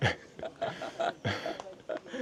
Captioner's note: laughter